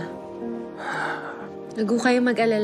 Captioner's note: estong sighs